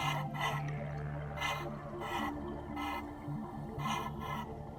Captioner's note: diver breathing